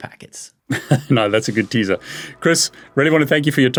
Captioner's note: chuckles